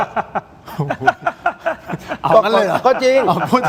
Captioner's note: laughs